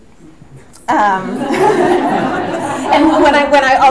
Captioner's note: audience laughs